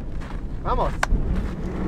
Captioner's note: in Spanish